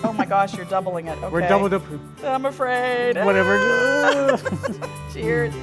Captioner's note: laughing